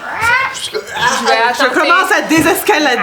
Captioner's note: bird squawk